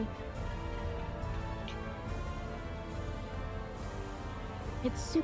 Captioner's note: wind howling